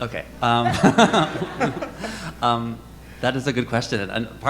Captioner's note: audience laughing